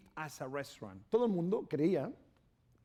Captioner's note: speaking spanish